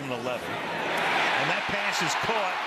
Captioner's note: cheering